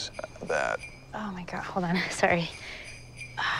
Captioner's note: phone ringing